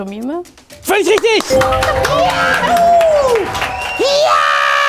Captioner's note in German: Jubel, Applaus